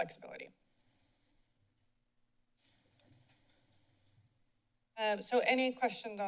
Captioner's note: silence